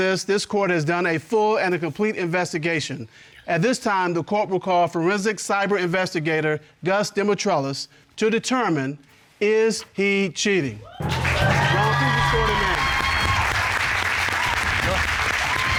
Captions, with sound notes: this court has done a full and a complete investigation. At this time, the court will call forensic cyber investigator, Gus Dimitrelos to determine, is he cheating. -[audience cheering] -Ron, please escort him in. [applause]